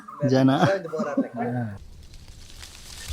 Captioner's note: laughing